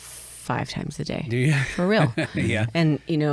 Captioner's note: chuckles